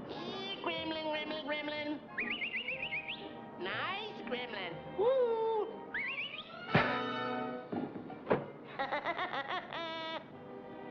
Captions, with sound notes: Here gremlin, gremlin, gremlin. [whistles] Nice gremlin. Whoo hoo! [whistles] [gremlin laughs]